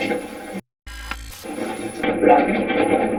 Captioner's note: static playback transmitting; static fizzing